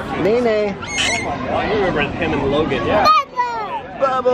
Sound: squeals

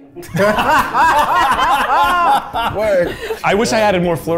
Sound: everyone laughing

